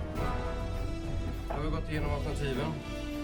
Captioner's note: speaking Danish